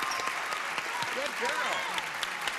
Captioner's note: clapping